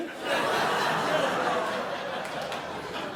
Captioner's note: crowd laughs